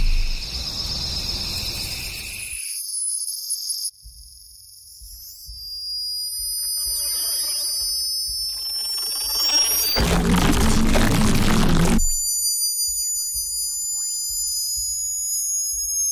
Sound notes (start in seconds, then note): 0.1 chirping; 8.4 crunching